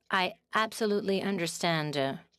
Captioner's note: speaking in French